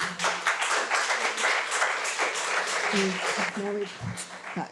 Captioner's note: audience clapping